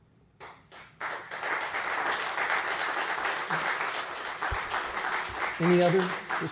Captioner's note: applause